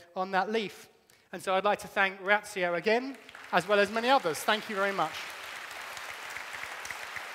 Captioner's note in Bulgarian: Аплодисменти